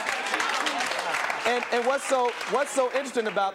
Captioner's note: applause